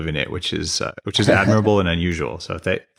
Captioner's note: laughs